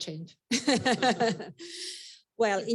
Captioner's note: all laughing